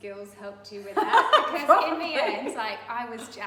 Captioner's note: laughs